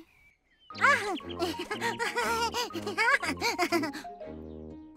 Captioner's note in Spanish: Pearl se rie